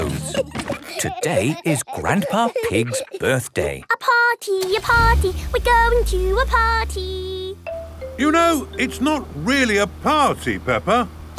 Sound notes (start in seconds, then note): 0.0 giggling; 3.7 sing song voice